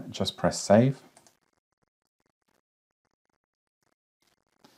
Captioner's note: mouse clicking